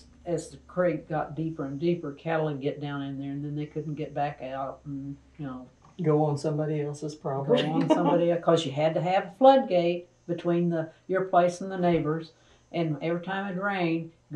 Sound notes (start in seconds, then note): 7.5 laughter